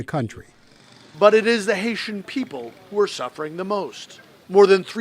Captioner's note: voice-over